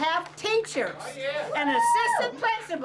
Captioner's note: audience yelling